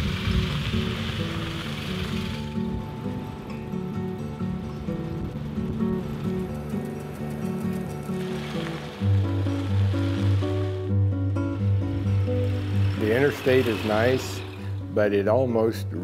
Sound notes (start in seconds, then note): 0.0 light music; 0.0 engine running